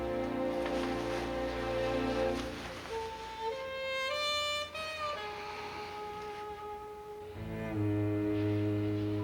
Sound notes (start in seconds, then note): 2.9 sighing